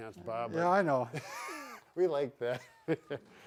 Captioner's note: laughs